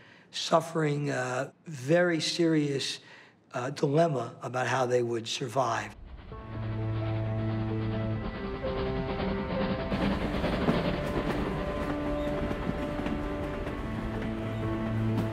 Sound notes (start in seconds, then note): 6.4 train chugging